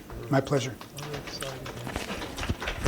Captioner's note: applause